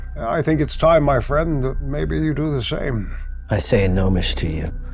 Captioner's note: none